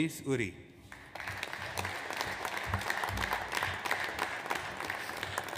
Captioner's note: audience applauds